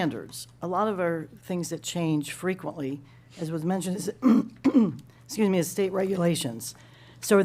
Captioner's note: cough and clears throat